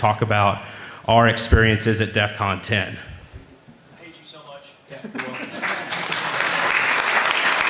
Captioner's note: applause